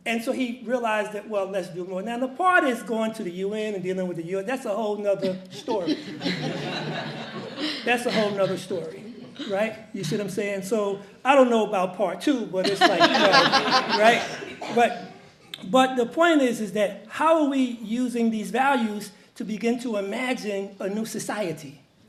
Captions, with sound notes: And so he realized that well, let's do more. Now the part he's going to the UN and dealing with the UN, that's a whole nother story. (audience laughs) That's a whole nother story, right? You see what I'm saying? So I don't know about part two, but it's like you know, (audience laughs) right? But the point is is that how are we using these values to begin to imagine a new society?